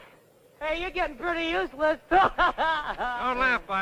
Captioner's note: laughs